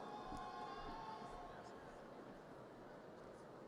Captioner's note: audience cheers